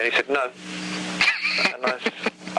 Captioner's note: host chuckles